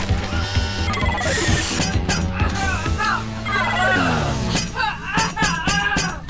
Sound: Azalla grunts; ax clangs; electronics bleeping; hammer clunking; Azalla grunting

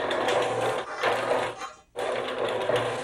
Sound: Roller Clanging

